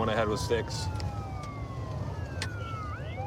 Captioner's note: sirens wailing